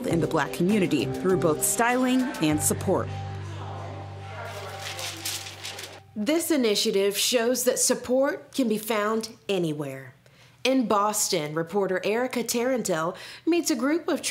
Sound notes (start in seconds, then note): 4.4 papers rustling